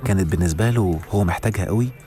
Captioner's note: none